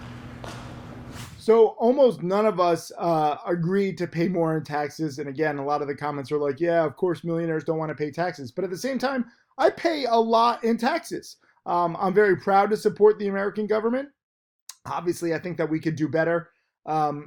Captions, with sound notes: (air whooshes) - So almost none of us agreed to pay more in taxes, and again, a lot of the comments are like, "Yeah, of course millionaires don't wanna pay taxes," but at the same time, I pay a lot in taxes. I'm very proud to support the American government. Obviously, I think that we could do better